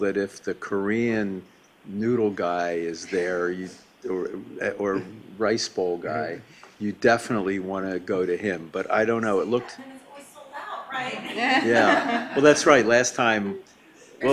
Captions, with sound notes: that if the Korean noodle guy is there, or rice bowl guy, you definitely want to go to him, but I don't know, it looked-- - They say that, then it's always sold out, right? Yeah. (laughing) Well that's right, last time,